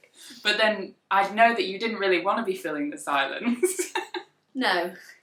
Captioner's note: laughs